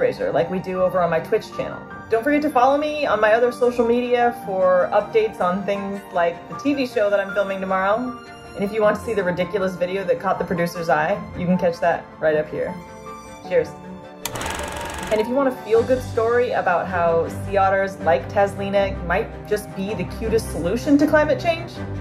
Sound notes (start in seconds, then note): 14.2 film rolling sound effect